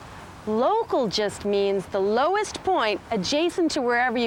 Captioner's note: none